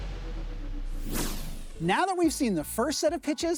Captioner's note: air whoosh